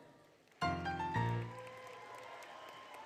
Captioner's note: applause, Music; applause, Cheering